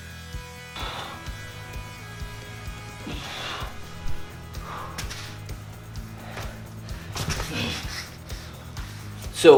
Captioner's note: heavy breathing